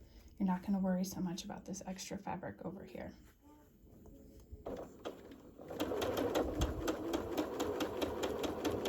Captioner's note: sewing